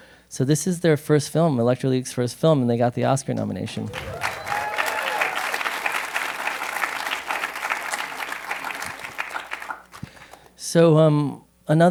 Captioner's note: applause